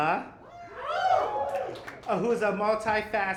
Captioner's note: whooping